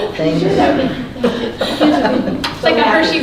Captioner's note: laughing